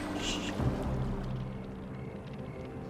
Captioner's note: fire crackling